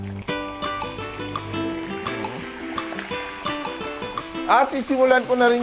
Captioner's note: sizzle